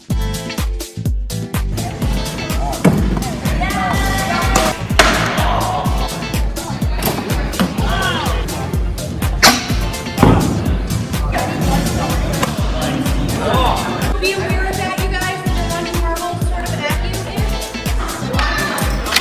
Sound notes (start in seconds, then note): 2.8 box thuds; 4.5 object thudding; 7.4 object launching